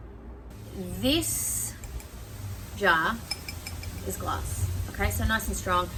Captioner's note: fingernails ting on glass